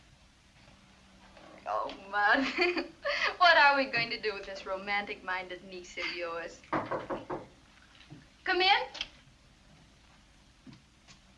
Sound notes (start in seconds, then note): 6.7 knocks